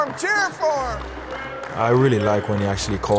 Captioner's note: team cheering and applauding